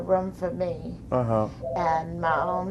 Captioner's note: phone ringing